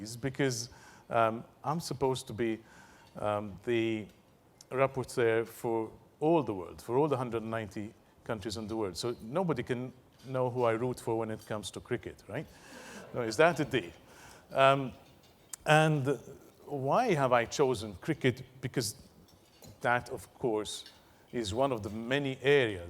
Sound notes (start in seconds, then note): 12.2 laugh